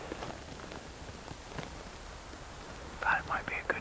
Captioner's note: wind whooshing